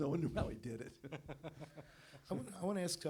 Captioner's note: laughter